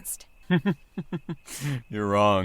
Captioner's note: chuckles